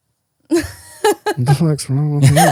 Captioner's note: laughing